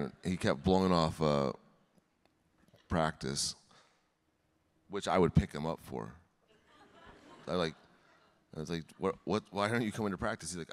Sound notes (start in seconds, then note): 6.7 audience laughing